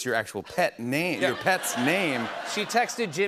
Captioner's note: laughter